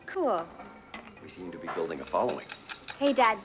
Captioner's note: coins jingling